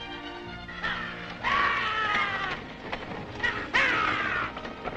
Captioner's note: soldiers shouting